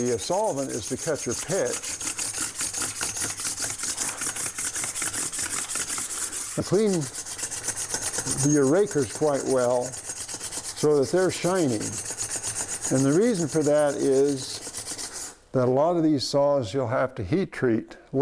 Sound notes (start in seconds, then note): 3.5 metal and stone scraping